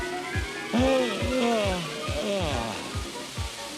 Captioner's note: yawns